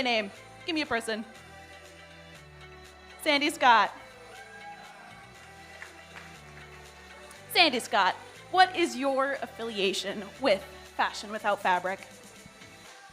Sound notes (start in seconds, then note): 5.0 audience member cheers